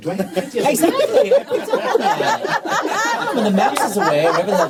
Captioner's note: laughter